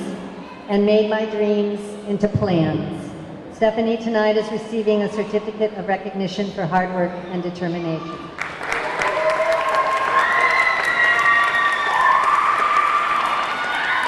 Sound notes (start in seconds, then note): 8.3 audience cheering; 8.3 audience clapping